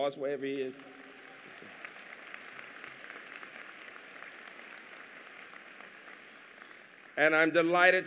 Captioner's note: applause